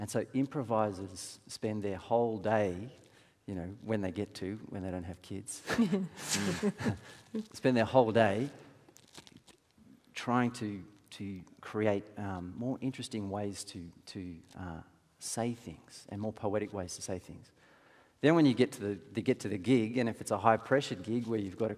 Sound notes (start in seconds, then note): 5.7 chuckling